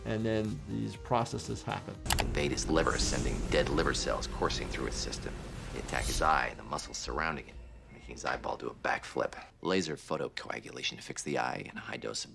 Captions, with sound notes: and then these processes happen. (mouse clicking) - Invade his liver, sending dead liver cells coursing through his system. They attack his eye and the muscles surrounding it, making his eyeball do a back flip. Laser photocoagulation to fix the eye and a high dose